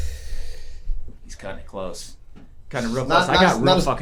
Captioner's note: inhales